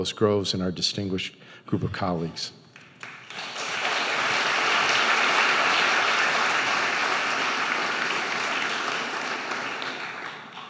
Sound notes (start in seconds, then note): 2.8 audience applauding